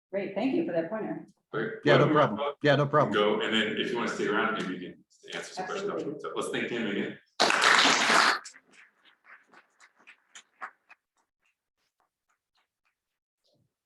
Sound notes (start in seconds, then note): 7.3 attendees clapping